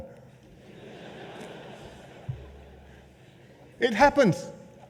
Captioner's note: laughter